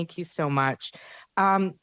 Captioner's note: speaking french